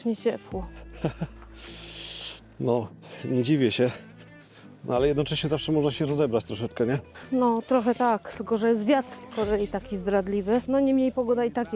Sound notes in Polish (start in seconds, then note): 2.5 parsknięcie